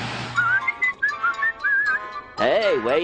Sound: whistling

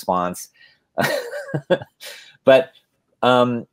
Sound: laughs

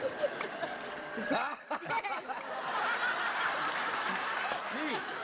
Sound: laughter

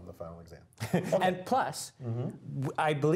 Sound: laugh

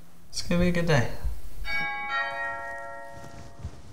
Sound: doorbell rings

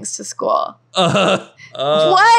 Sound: awkward laugh

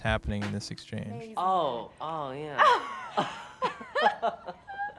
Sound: laughs

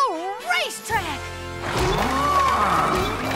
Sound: mooing

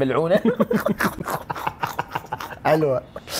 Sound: both laughing

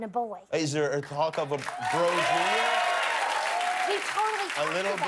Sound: cheers and applause

